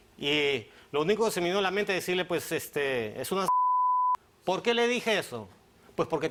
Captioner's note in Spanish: Bip